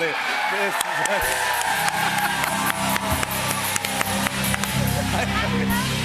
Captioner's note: cheers and applause